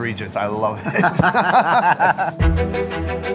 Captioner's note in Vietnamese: cười